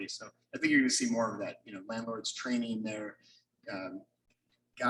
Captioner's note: none